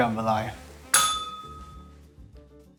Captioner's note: bell rings